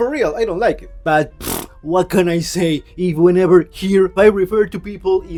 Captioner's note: puff